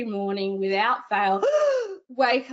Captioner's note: gasping